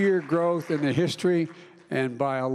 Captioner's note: applause